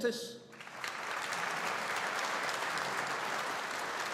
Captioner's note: audience applauding